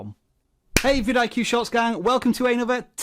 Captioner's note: hands clap